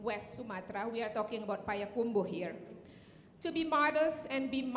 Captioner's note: speaking in Indonesian